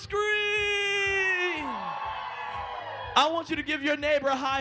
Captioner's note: screaming